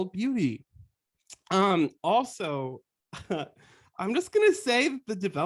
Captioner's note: laughter